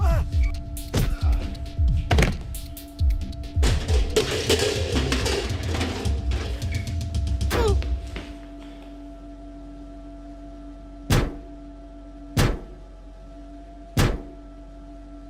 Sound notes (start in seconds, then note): 11.0 sound of metal lid against head